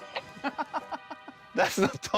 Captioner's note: laughs